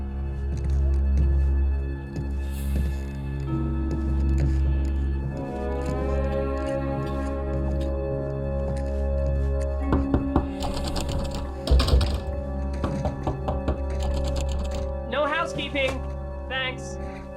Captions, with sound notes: (dramatic music) (knocking on door) (doorknob rattling) - No housekeeping, thanks.